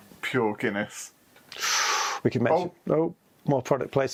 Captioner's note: gasps